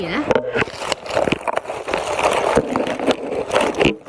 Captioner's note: leaves rustling